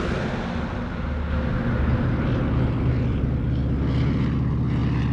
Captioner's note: roaring engine of airplane